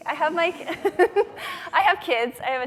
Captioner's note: laughing